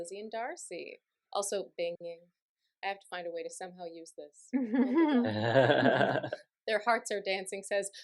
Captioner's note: laughter